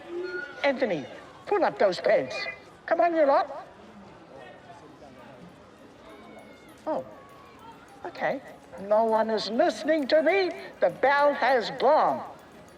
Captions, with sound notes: Anthony, pull up those pants. Come on, you lot. (CHATTER CONTINUES) Oh. OK. No one is listening to me. The bell has gone.